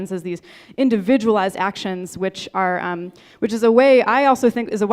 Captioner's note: none